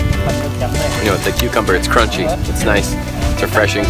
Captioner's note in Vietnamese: Crunchy